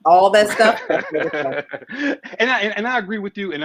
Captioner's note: laughs